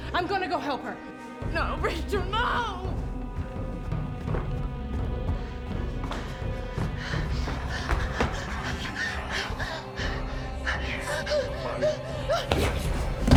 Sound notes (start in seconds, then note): 7.0 Claire panting